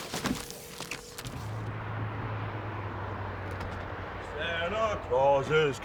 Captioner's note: cars swooshing